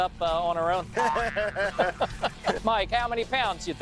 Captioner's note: laughing